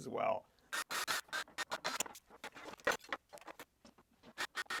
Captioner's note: power drill whirring